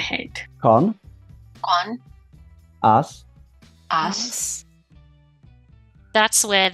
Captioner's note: Speaking Irish